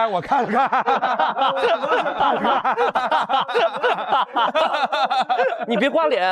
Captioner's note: hahaha